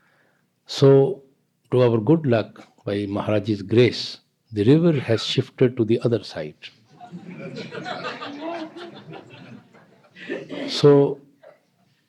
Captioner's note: laughter